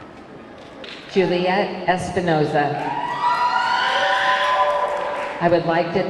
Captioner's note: audience cheering